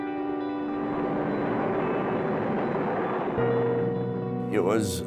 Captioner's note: aircraft engine revs